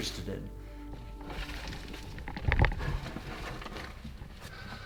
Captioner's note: rocks rattling